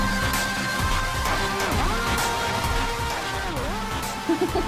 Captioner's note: laughing